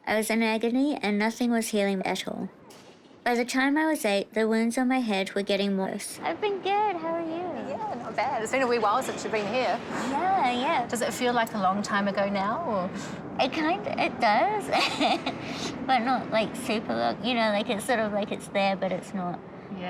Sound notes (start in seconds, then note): 14.6 laughs